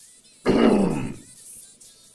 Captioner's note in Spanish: Tosido